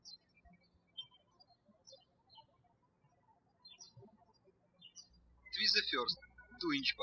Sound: birds chirping

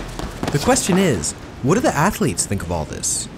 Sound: voiceover

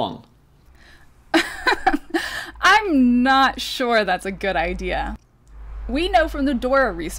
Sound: laughs

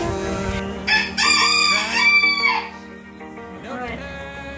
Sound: rooster crows

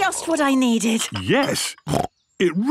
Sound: snorts

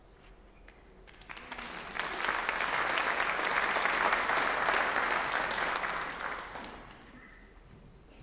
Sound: applause

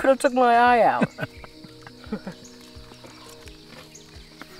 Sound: laughs

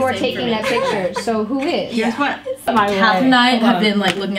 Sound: laughs

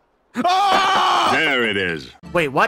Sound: screams

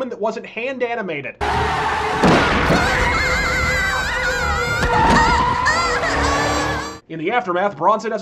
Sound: Hentai Scream

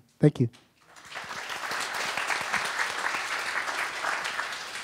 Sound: audience applauds

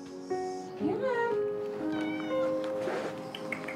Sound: meows

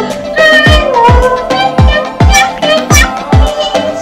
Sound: meow! Meow!

